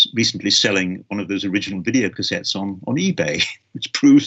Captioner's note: laughs